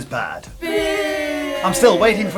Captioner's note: children booing